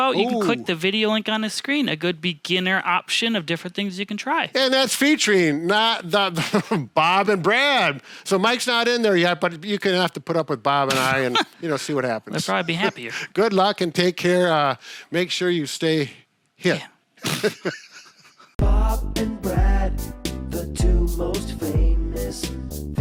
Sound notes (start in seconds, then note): 17.2 laughing; 17.2 raspberry blowing